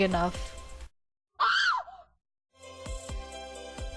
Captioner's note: scream